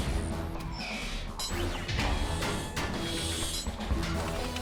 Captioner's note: mechanical whirring and clanking